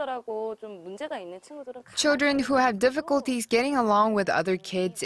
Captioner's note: Korean